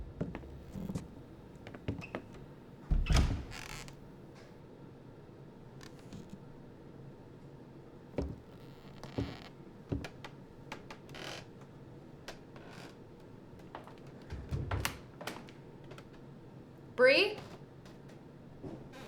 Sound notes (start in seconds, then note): 8.9 quiet footsteps; 13.6 stairs creaking